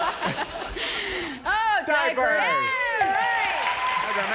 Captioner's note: laughter